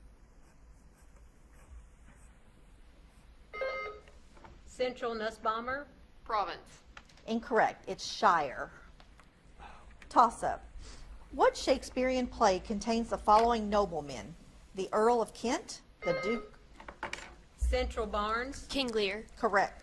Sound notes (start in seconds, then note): 3.6 buzzer beeps; 16.0 buzzer beeps